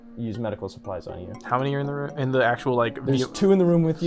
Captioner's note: none